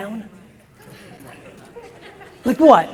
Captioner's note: audience chuckles